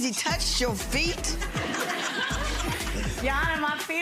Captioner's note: audience laughs